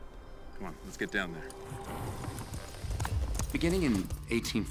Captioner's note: none